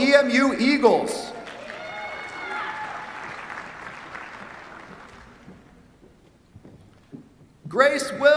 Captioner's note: cheers, applause